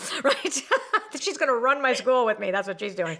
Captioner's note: laughs